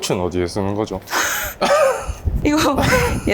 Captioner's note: laugh